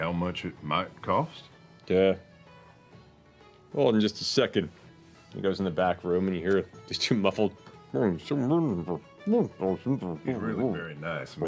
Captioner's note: muffled conversation